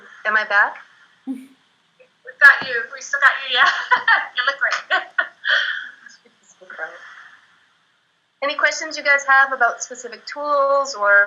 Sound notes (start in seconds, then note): 4.1 laughs